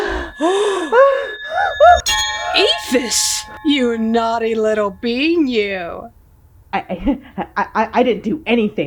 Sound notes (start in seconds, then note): 2.2 ringing